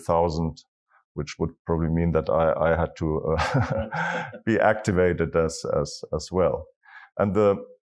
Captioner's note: laugh